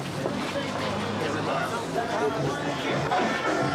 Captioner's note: chatter